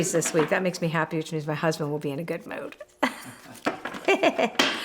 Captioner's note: laughs